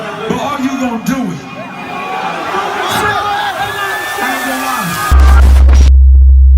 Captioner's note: crowd Cheering